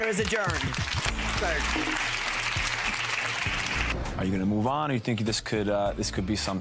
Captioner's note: audience applause